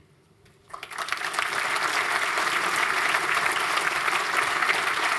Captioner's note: applause